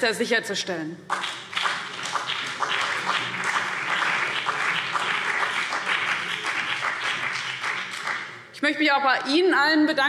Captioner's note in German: Beifall